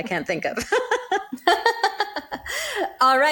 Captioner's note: both laughing